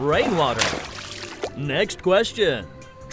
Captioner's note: water splashes